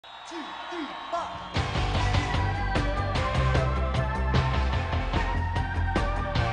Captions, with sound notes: (crowd cheering) - Two, three, four! (upbeat pop rock music)